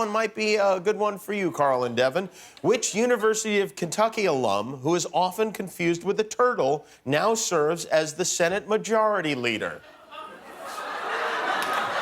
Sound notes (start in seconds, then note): 9.8 laughter